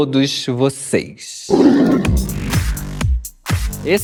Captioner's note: roar; electronic music